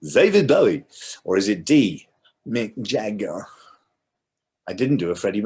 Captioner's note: impersonates mick